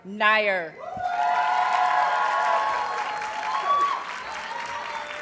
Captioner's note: audience cheers and applauds